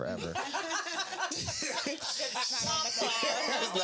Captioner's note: laughing